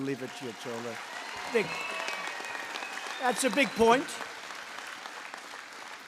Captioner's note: applause